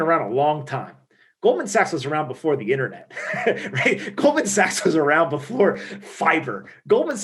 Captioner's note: laughing